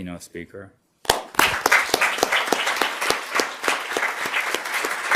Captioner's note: audience applause